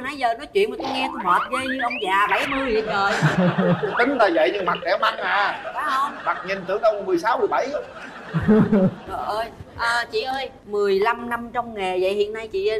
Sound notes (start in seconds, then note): 2.7 laughter